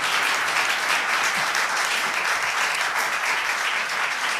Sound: applause

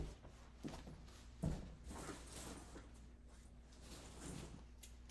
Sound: footsteps thumping

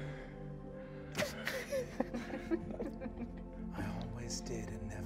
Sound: all chuckling

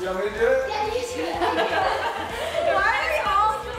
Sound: laughter

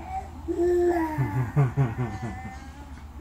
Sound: laugh

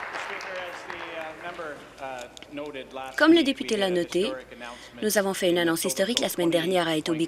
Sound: applause

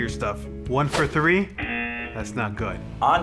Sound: buzzer

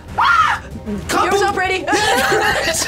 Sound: screams; both laugh

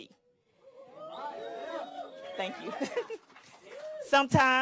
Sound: cheers; laughs

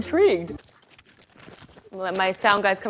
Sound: crackling

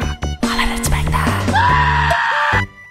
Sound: Le screm

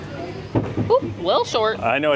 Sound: ball thudding

